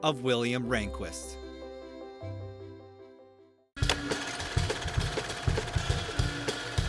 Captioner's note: film reel clicking; upbeat percussive music